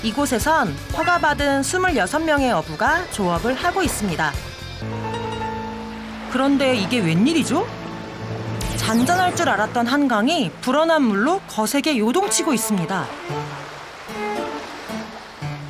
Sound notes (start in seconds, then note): 13.3 splash splash